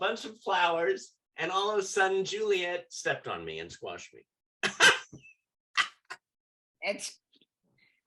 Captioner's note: laughter